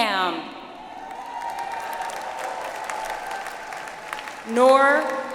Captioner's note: audience applauds